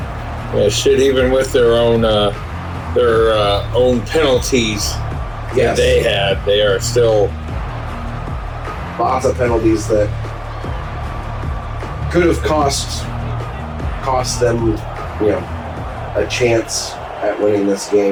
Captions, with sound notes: [Crowd Noises] Yeah, shit, even with their own penalties. [Crowd Noises] Yeah, they had, they are still. [Crowd Noises] Lots of penalties that could have cost them a chance at winning this game.